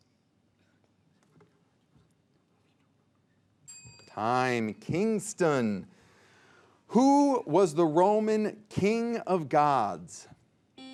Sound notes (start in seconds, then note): 3.7 bell dinging